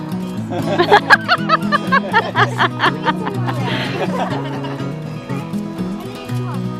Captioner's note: laughing